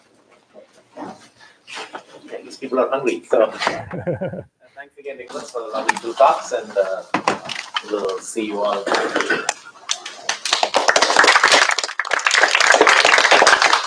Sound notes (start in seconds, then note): 10.2 applause